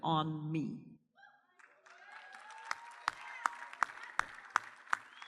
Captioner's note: audience cheers and applauds